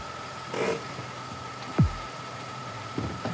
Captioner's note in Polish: dźwięk zaciąganego hamulca ręcznego